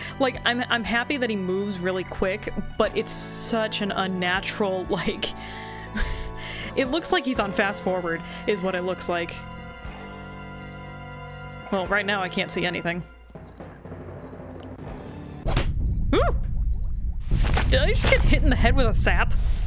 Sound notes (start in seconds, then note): 15.4 whap!